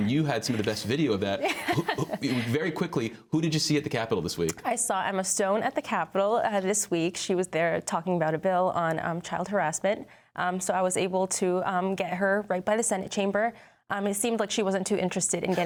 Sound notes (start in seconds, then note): 1.4 laughter